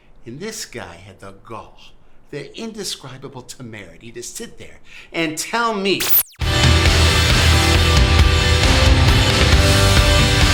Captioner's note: sound of TV switching off